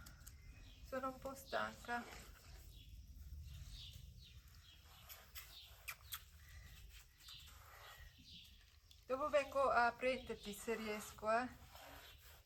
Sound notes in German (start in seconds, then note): 1.0 spricht mit meiner Tochter auf Italienisch